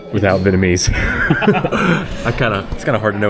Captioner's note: laughing